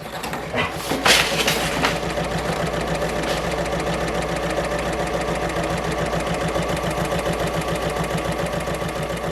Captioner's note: sewing Machine Sounds